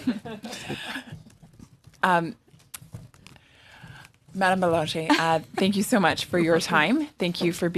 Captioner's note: laughter